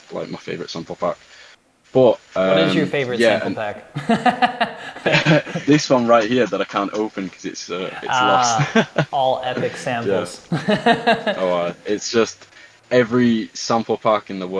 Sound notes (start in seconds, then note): 4.9 laughing